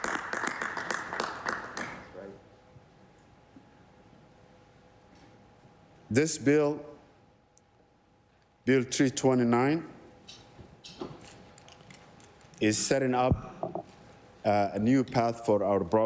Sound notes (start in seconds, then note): 2.3 applause